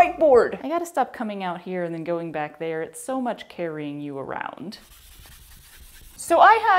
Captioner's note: intense scrubbing